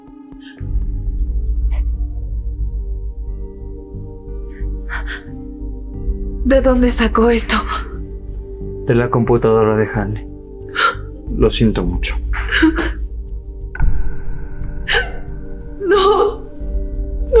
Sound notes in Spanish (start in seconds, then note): 15.8 carraspeo